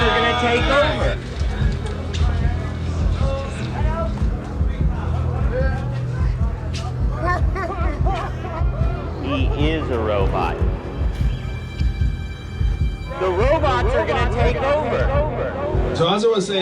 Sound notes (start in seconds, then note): 7.7 people chattering, laughing; 11.6 ominous violin music